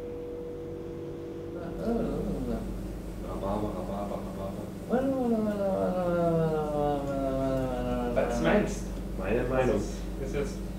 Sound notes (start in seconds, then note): 2.3 talking gibberish, to test the camera-perspective while talking